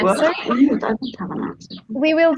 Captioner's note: chatter